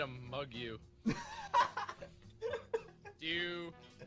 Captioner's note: laughter